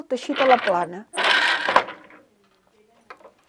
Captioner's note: noise of shuttle moving